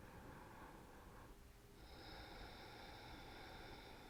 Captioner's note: breathing deeply